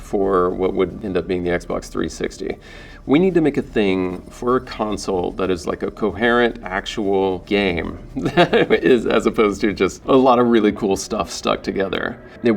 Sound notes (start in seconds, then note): 7.8 laughing